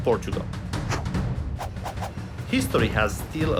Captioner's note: whoosing